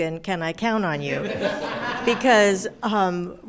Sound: everyone laughing

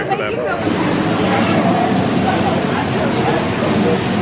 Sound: water splashing; guests chattering indistinctly

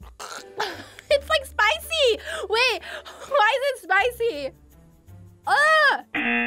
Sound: gags; buzzer rings

